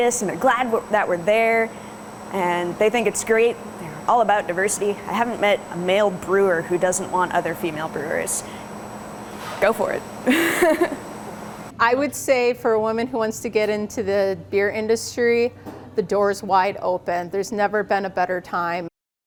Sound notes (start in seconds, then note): 10.3 laughs